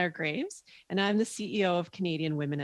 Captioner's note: speaking French